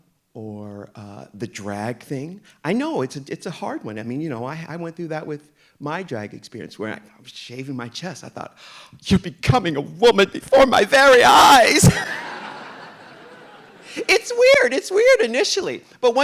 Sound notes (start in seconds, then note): 11.8 audience laughing